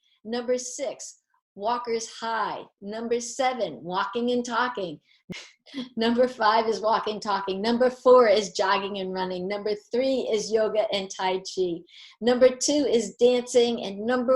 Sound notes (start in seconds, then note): 5.4 laughter